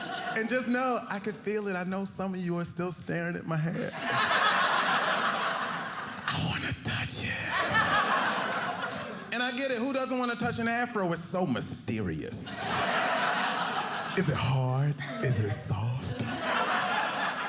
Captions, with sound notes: And just know, I can feel it. I know some of you are still staring at my hair. (audience laughing) "I want to touch it." (audience laughing) And I get it. Who doesn't want to touch an afro? It's so mysterious. (audience laughing) Is it hard? Is a soft? (audience laughing)